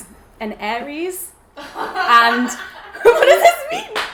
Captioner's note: laughs